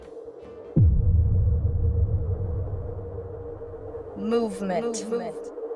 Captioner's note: ominous musical score; wind blows; echoes